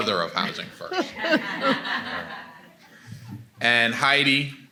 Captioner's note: attendees laughing